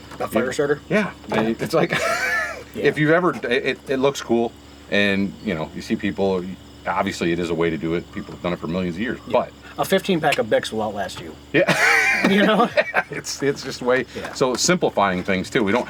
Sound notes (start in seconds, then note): 1.7 laughs; 11.5 laughs